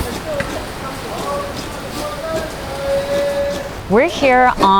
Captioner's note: coconut grating